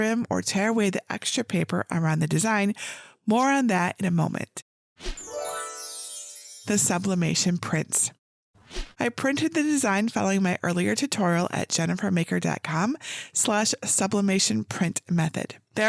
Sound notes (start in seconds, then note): 5.1 screen whooshes; 5.2 stars chiming